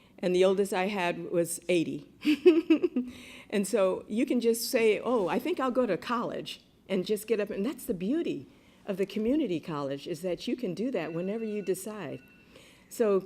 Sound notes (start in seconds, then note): 2.2 laughter